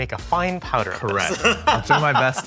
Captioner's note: laughing